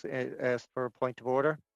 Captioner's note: speaking in French